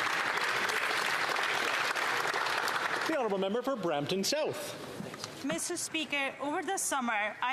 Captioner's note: applause